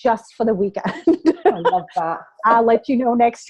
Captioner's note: laughter